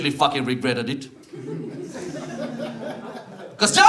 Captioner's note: audience laughs